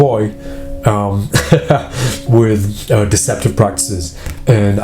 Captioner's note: laughs